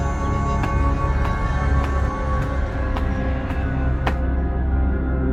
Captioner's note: sinister spooky music; footsteps; sinister spooky music